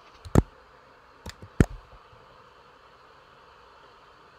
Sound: pen clicks

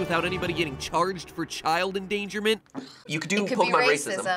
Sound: sighs

